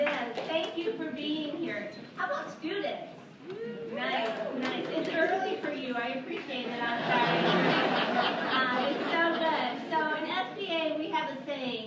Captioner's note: laughter